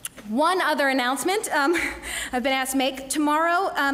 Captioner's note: laugh